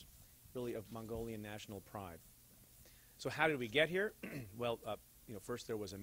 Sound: clear throat

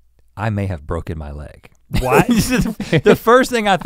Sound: laughs

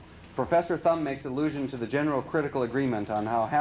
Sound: none

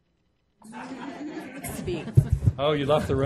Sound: laughing

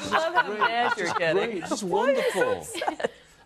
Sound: laughter

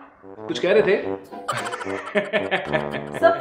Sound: laughing

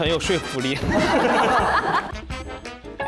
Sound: ha Ha Ha Ha

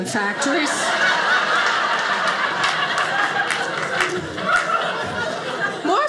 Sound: audience laughing

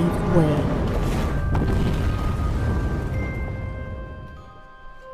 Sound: wall Collapses

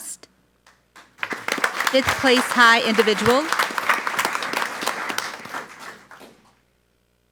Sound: audience applauds

